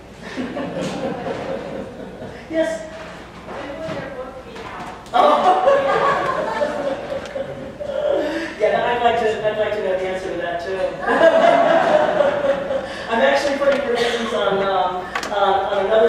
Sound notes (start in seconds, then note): 0.2 laughter; 5.2 laughter; 11.0 laughter